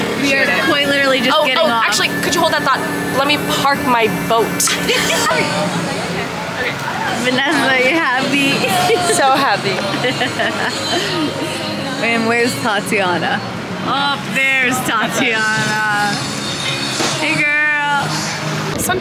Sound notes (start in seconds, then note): 4.6 giggles; 10.1 laughs